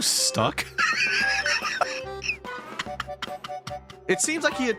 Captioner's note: wheeze